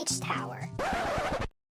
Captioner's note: record scratch